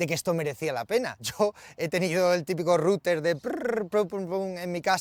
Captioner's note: imitating beeping